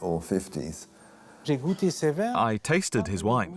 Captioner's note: non-english speech